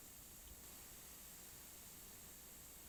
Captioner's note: white noise